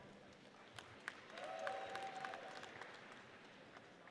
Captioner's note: audience applauds